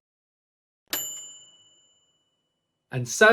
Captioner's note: bell dinging